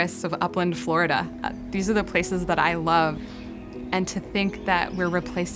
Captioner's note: birds chirping